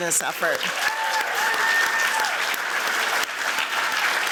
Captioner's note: applause